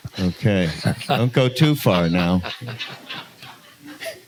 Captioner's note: laughter